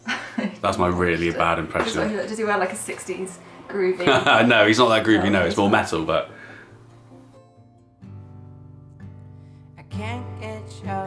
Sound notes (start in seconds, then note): 4.0 laughs